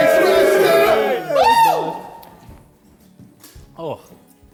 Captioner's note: JJ shouts